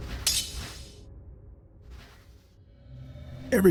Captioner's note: swords clanking